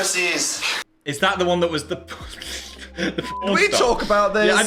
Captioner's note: laughs